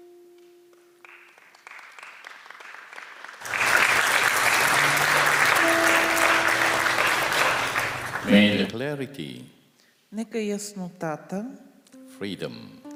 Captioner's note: applause